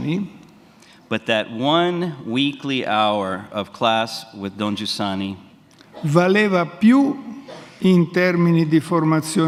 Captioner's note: speaks in Italian; speaks in Italian